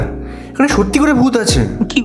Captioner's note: none